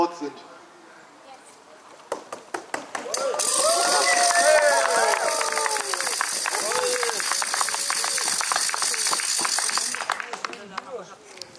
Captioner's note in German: Applaus